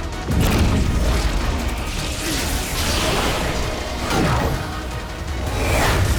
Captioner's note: spells fire and crackle